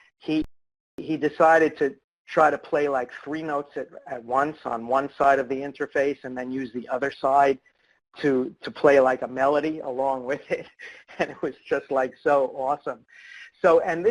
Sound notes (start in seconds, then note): 10.7 laughs